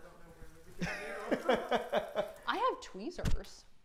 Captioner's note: laughing loudly